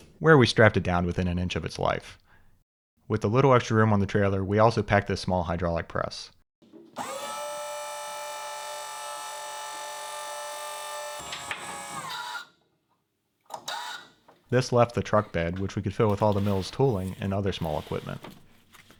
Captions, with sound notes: Where we strapped it down within an inch of its life. With the little extra room on the trailer, we also packed a small hydraulic press. (trailer motor whirring) This left the truck bed, which we could fill with all the mills tooling and other small equipment.